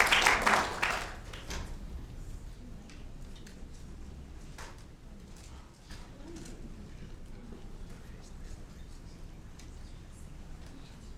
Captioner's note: applause